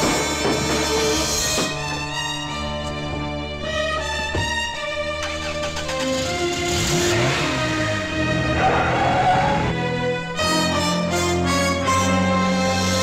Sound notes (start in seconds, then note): 5.3 car engine starts; 8.7 tires squealing